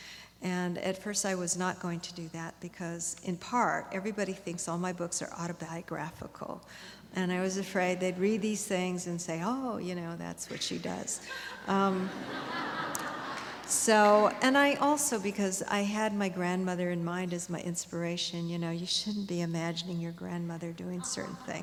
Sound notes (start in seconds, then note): 11.2 laughter